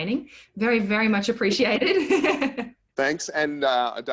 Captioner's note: laughs lightly